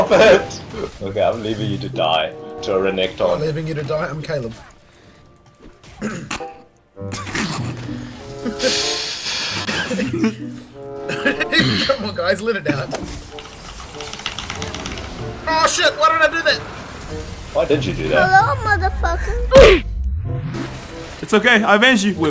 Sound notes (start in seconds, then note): 7.5 suppressing laughter